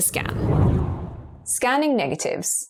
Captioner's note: video effect whooshes